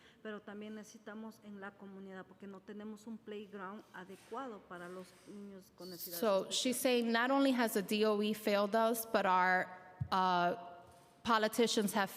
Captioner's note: speaking foreign language